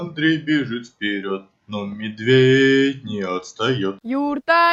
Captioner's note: in rhyme